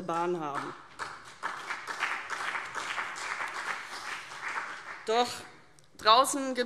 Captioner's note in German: Beifall CDU und BÜNDNIS 90/DIE GRÜNEN